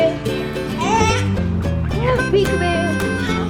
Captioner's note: baby cooing